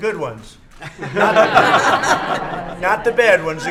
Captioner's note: laughter